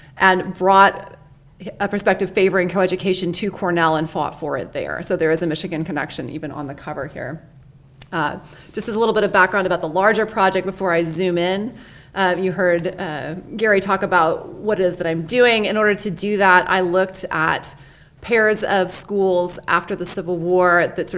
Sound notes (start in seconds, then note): none